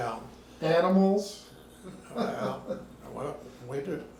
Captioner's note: laughing